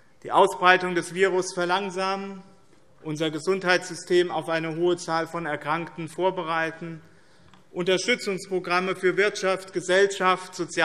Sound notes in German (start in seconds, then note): none